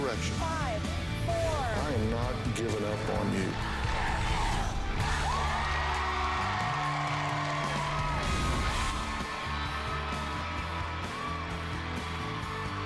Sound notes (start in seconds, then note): 3.5 crowd chanting "dr. phil!"; 5.9 cheers and applause